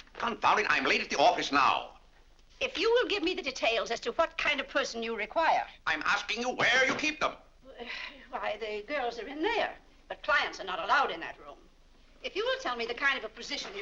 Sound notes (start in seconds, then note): 7.2 banging cane; 7.8 sighs